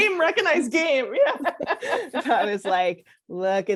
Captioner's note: laughter